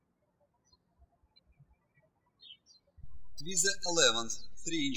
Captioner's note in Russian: птички щебечут